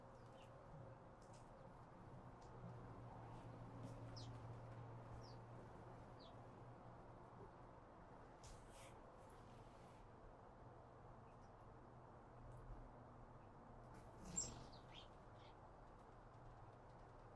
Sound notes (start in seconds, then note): 4.3 bird Chirping; 14.3 bird Chirping